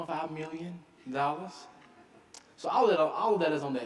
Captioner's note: audience laughing